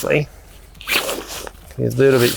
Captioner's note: tent swooshing